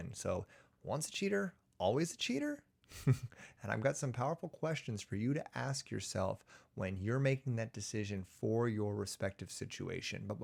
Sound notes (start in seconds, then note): 2.9 chuckles